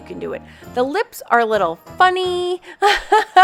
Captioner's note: laughs